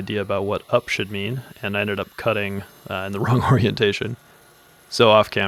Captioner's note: laughing